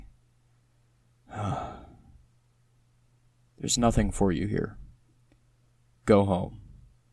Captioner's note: sigh